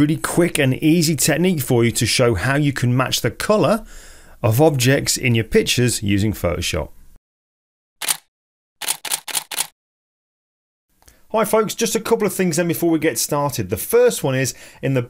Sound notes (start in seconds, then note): 8.8 camera shutter clicks